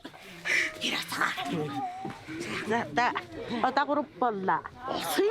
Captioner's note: foreign spoken audio